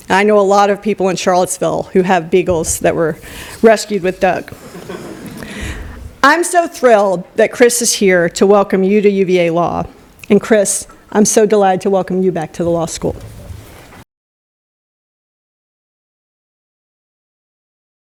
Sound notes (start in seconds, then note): 4.5 laughter